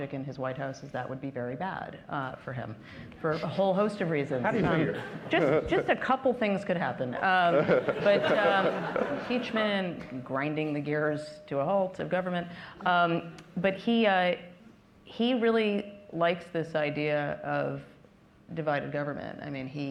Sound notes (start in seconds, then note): 7.4 laughter